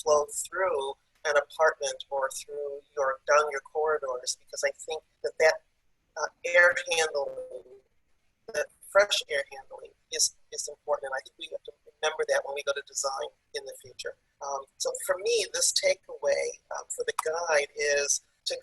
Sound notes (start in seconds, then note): 11.4 audio is choppy